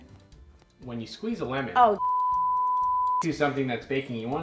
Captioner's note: beeps